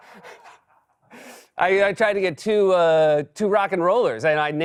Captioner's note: normal voice